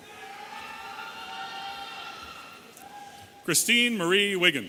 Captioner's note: audience cheering